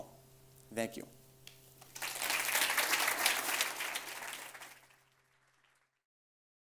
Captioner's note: audience applauds